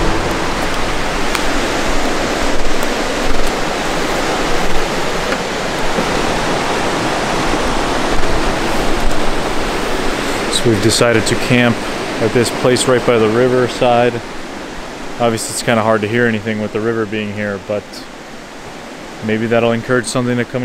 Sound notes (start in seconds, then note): 1.7 water rushing